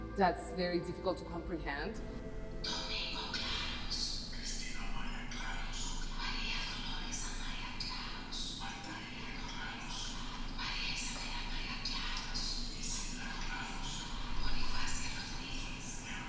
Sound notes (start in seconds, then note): 2.6 whispering of names